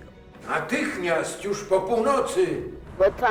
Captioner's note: in Polish